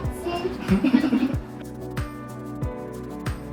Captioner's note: laughs; gentle music